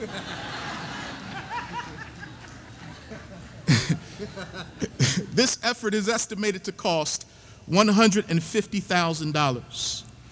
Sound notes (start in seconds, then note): 0.0 audience laughing; 3.8 laughing